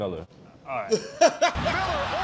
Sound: laughter

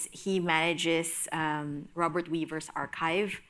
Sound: none

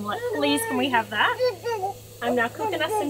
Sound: babbling

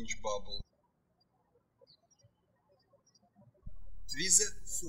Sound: birds chirping

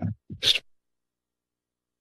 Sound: sniffs

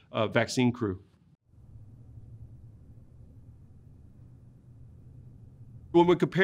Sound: silence

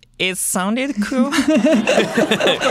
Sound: laughter

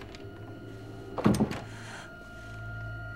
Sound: thudding

